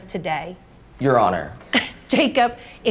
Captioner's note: scoffing